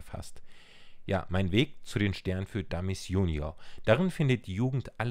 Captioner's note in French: en allemand